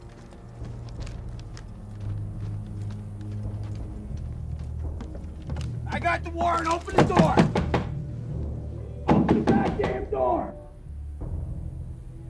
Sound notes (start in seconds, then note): 6.7 loud banging